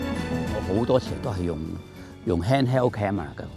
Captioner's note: Cantonese